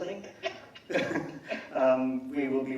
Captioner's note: laughing